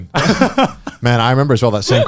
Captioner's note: chuckling